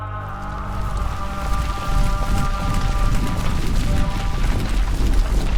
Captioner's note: volcano rumbling